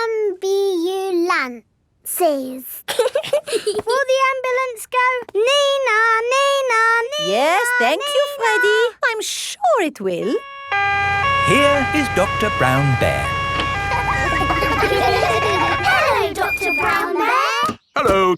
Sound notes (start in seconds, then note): 2.9 both giggling; 10.3 siren wailing; 14.3 kids laughing